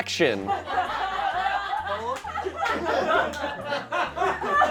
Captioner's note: group laughing